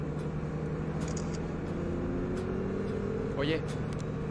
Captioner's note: klik kamera